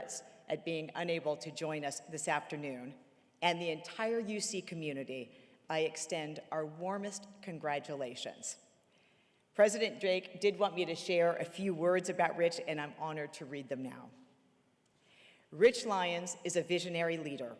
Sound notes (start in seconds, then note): none